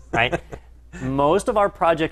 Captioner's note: laugh